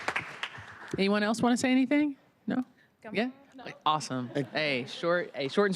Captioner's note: applause